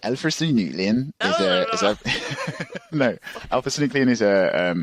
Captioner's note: laughs